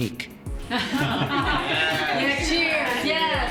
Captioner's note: laughter